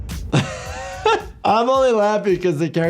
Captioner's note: doctor laughs